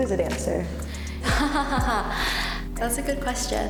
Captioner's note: laughs